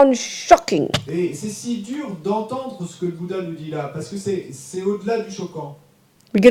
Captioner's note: audience member speaks in French